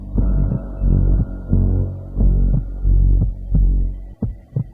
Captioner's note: heart beating